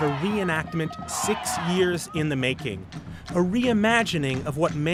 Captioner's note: cheering